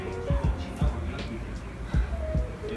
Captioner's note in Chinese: 深呼吸